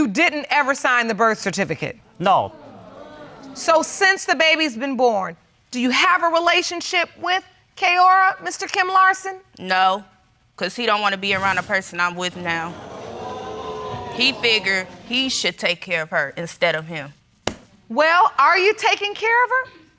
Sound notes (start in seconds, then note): 12.2 audience exclaiming